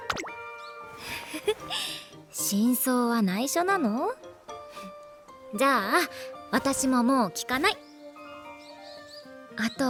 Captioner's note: laugh